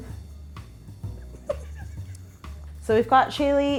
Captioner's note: laughing